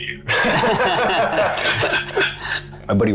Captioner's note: laughter